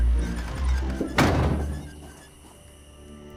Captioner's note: door slams